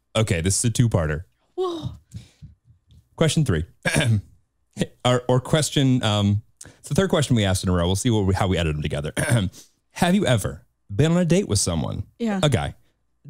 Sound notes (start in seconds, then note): 3.8 clears throat; 9.1 clears throat